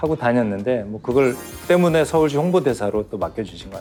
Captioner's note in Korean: 반짝이는 효과음